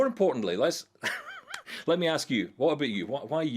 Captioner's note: laughs